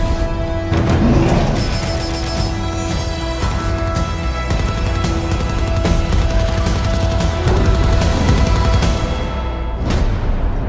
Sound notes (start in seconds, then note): 0.8 Kong roar; 1.8 machine gun